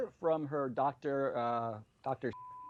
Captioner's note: beep